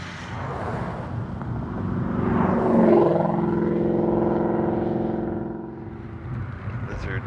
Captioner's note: e-bike passing; hot rod passing